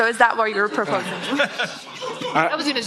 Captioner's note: laughter